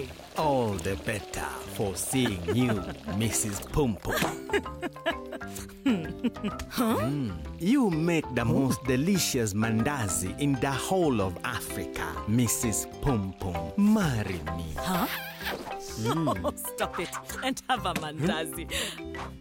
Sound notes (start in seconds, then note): 1.8 chuckling; 15.9 chuckling